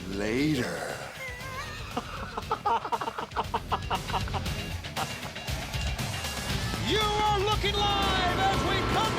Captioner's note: laugh